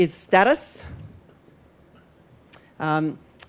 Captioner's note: pause